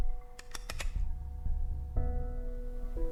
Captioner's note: tender piano music; gun clicking; tender piano music